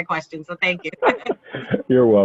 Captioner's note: laughs